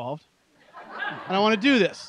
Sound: laughter

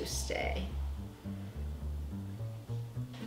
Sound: shriek

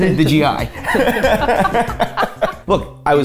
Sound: laughing

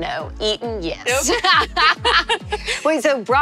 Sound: both laugh

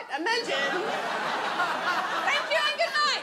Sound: audience laughs

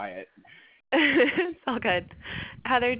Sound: laugh

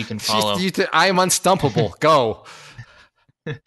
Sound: laughs

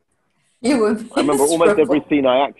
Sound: chuckling

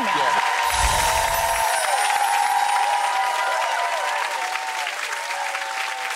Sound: audience cheering and clapping

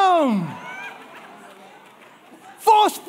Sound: congregation chattering and applauding

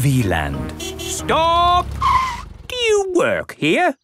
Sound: tires screeching

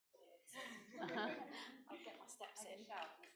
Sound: laughing

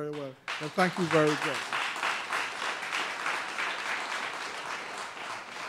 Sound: applause

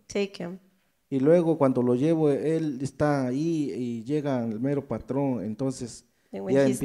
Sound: speaks in foreign language

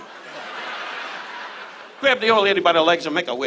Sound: audience laughs

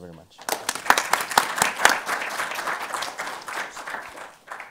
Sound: audience applauding

